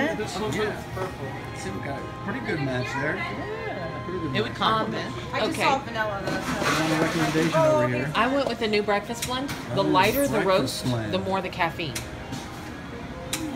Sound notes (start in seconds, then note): 6.1 chatter